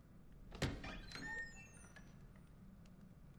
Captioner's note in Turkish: Kapı gıcırdama sesi